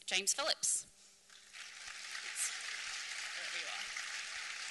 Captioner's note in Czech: potlesk